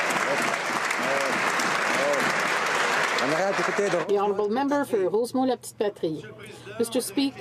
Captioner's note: some Applause